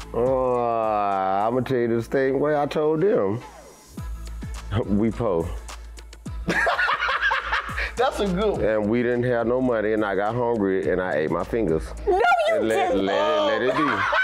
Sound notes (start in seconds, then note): 6.5 laughing; 13.2 laughing hysterically